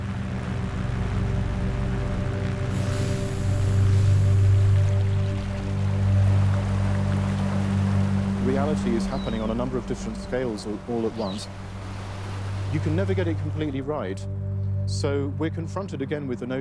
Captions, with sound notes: [chemicals hiss] [water rushing] Reality is happening on a number of different scales, all at once. You can never get it completely right, so we're confronted again with the notion